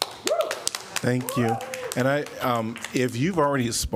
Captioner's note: applause